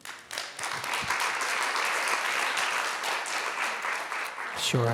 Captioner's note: people clapping